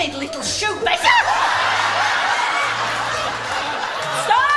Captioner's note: audience erupts